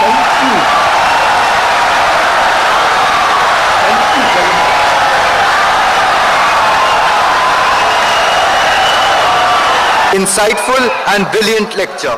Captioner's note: wild applause and cheering for 17 seconds